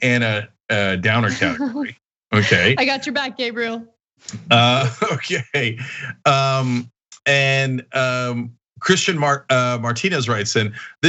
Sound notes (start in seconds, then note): 4.3 laugh